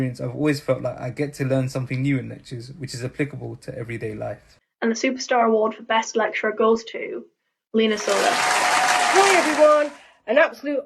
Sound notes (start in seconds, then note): 7.9 applause